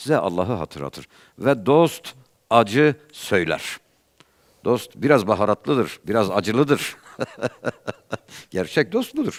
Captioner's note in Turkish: kahkaha